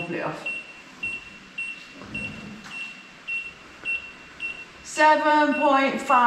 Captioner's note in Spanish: pitido